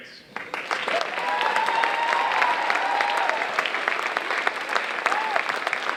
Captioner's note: audience cheering and applauding